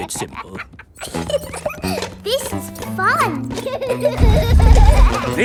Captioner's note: giggles